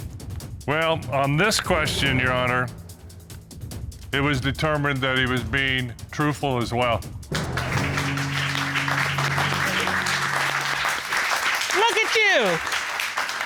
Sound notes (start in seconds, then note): 7.3 audience applauding